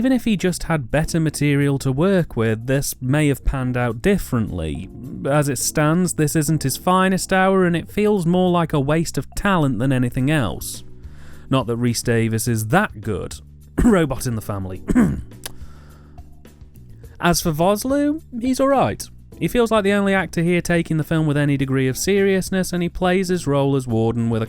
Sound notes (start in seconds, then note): 14.8 cough